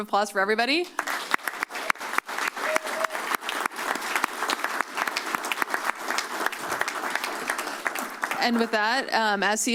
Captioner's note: applause